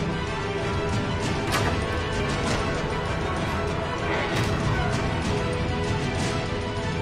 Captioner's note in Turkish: Kapı Açılma Sesi